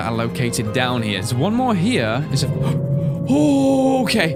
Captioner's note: gasp